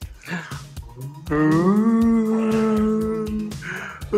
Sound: spooky sounds

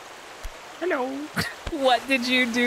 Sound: laugh

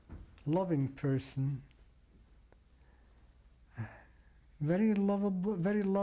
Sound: pauses for 3 seconds

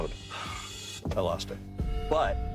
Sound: sighing

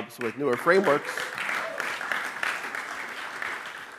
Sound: clapping

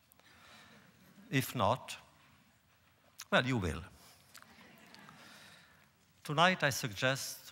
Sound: laughter

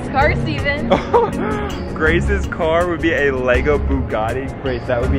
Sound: laughs

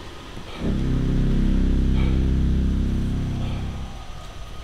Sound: father breathing heavily

